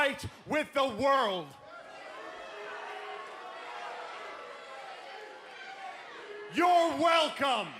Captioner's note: crowd cheering